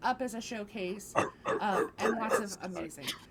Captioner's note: dog barking